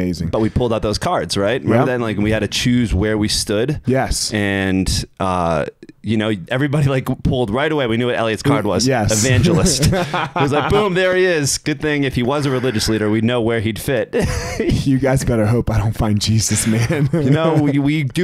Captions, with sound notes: those cards, right? - Right. - Right then, we had to choose where we stood. - Yes. - And, you know, everybody pulled, right away, we knew what Eliot's card was. - Yes. (chuckles) - Evangelist. It was like, boom, there he is. Good thing if he was a religious leader, we'd know where he'd fit. (chuckles) - You guys better hope I don't find Jesus, man. - You know, we do worry about it